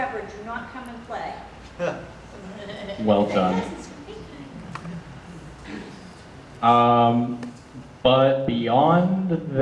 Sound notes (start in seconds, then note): 2.4 audience laughter; 3.7 audience murmur